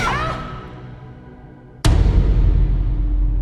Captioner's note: Merritt shouts